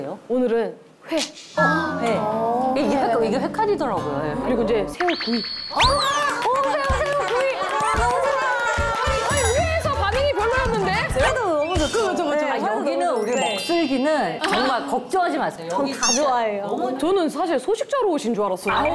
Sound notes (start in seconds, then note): 6.1 clapping like a seal